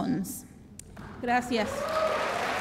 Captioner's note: speaks Spanish; audience applause and cheers